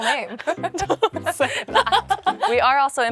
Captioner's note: laughs